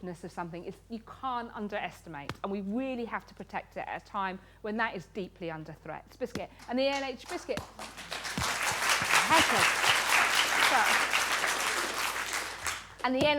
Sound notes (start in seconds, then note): 6.6 applause